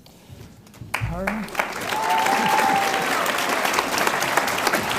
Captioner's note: audience applauds